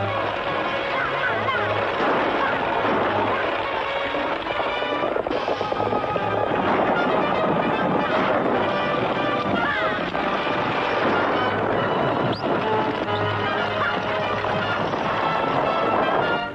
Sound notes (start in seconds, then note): 0.1 gunshots; 9.8 gunshots